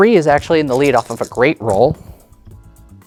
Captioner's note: dice rattling, then rolling